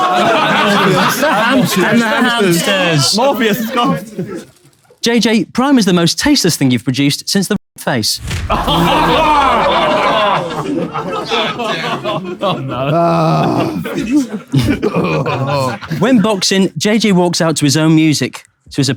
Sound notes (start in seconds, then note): 8.5 people in room laughing; 12.8 KSI groaning